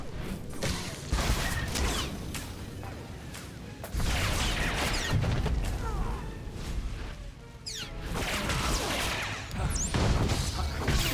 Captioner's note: squeaking